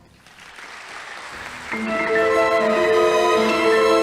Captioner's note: audience applauding; whimsical orchestral music